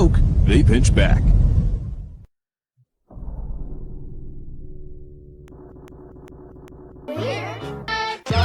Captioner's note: ominous sounds